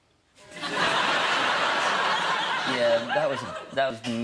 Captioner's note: audience laughing